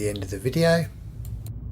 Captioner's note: car noise